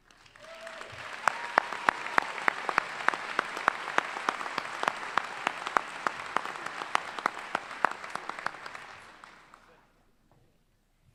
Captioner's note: applause